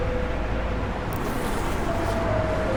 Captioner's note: zipper